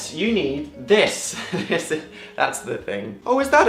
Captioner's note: laughing nervously